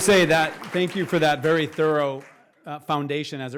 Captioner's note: applause